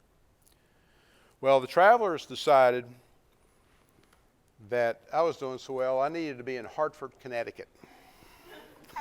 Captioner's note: laughs